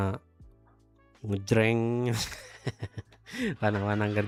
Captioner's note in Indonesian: tertawa